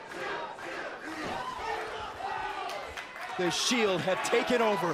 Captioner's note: crowd chatter